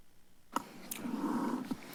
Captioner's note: rustles